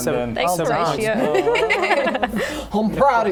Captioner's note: appreciative laughter